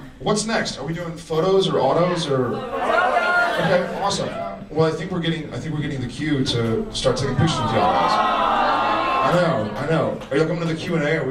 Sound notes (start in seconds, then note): 7.4 audience groans